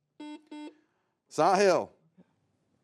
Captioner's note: buzzer beeps